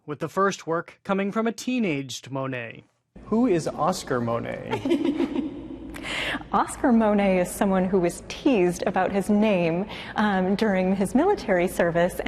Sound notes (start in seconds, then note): 4.6 laughing